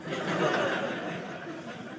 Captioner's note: audience laughing